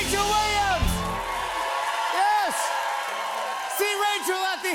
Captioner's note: cheers and applause